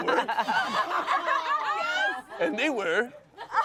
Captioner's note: everyone laughs